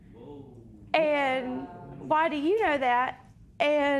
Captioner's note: spectators murmur